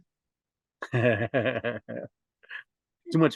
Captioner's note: laughs